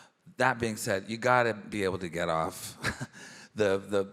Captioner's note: chuckles